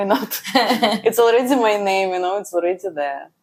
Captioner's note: laughs